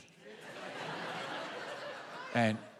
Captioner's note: laughter